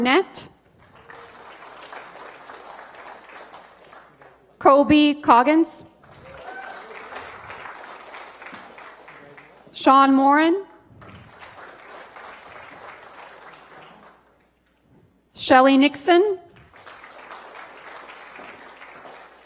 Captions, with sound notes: [APPLAUSE] ANABETH SHARPE. [APPLAUSE] EVAN LEWIS. [APPLAUSE] EVAN YOU'RE FROM MARYLAND. SO CAN YOU JUST STAND A LITTLE BIT OVER HERE. AND WE'RE GOING TO TAKE A PICTURE WITH